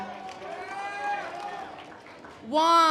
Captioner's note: audience applause